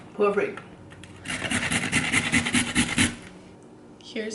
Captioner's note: continues aggressive grating